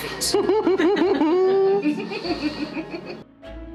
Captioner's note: everyone laughs